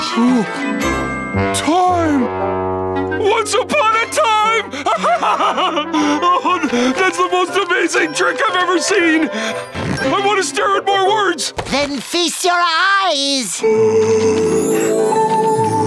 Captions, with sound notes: To continue the story, you have to turn the page. Time! Once upon a time! [laughing] That's the most amazing trick I've ever seen! I want to stare at more words! Then feast your eyes!